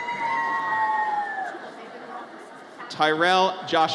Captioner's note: audience cheers